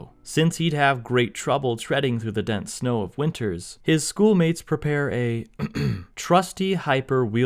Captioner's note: ahem